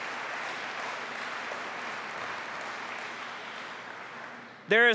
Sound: applause

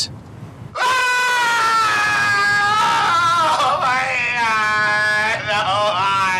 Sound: yelling

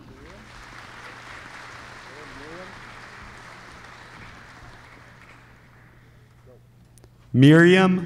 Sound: applause

